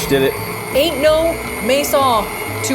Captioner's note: machine whirling